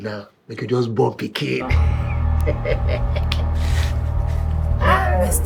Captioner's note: laughing